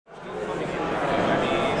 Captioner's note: crowd ambience